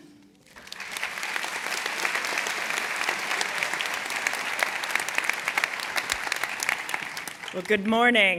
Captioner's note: applause